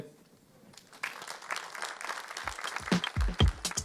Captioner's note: applause